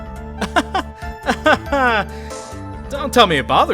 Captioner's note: awkward laugh